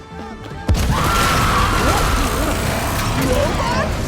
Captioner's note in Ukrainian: крик жаху